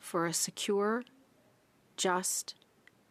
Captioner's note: speaking French